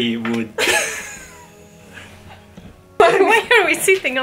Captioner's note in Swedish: Skratt